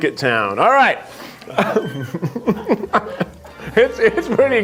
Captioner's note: laughs